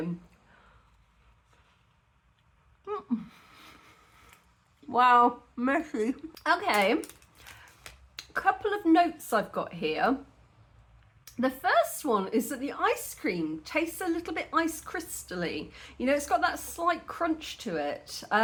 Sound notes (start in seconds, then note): 2.8 laughing